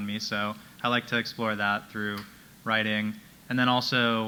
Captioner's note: none